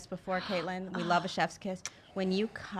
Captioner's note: sighing